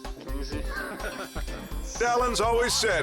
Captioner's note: overlapping chatter